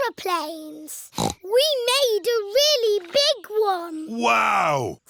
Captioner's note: snorts